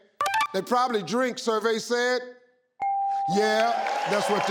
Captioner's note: machine beeping; machine beeping; audience applauding